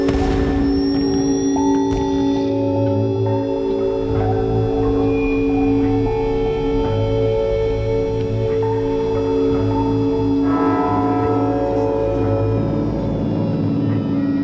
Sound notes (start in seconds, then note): 11.3 bells tolling